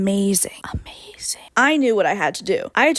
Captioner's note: quietly